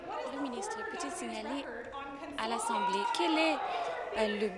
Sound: applause

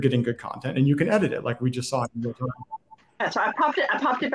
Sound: speaks faintly

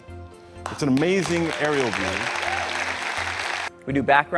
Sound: applause

